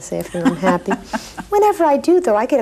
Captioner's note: laughing